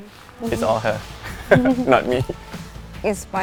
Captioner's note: laughs